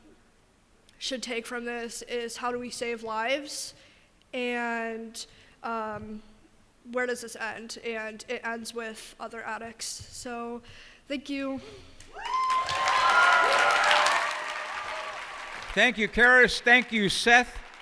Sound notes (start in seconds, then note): 12.1 cheers and applause